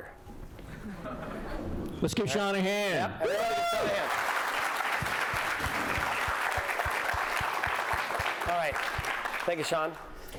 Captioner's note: applause